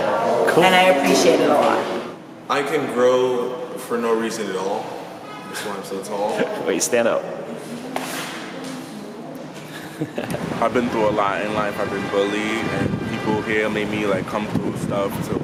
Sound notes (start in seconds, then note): 9.6 laughing